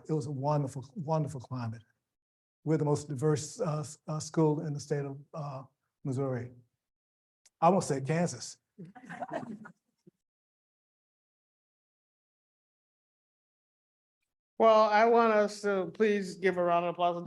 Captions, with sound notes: It was a wonderful, wonderful climate. We're the most diverse school in the state of Missouri. -I'm gonna say Kansas. -(people laughing) Well, I want us to please give a round of applause